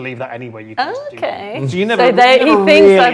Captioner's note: overlapping chattering